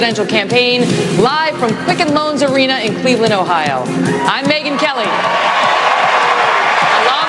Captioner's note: audience cheering